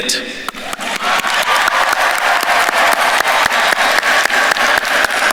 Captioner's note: audience cheering and applauding